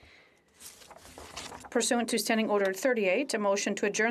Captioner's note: speaking FRENCH